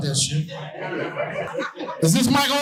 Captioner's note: audience laughing